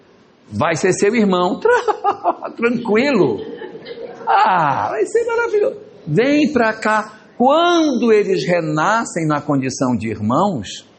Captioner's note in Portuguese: risadas